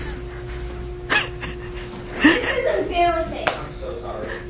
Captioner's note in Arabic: يضحك